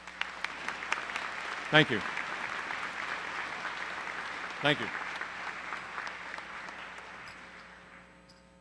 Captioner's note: applause